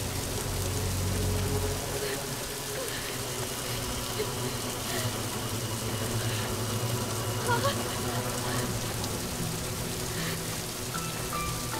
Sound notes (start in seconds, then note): 0.6 shivering; 7.0 panting